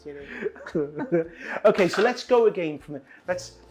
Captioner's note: laughing